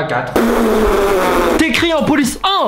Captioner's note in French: pfffffffff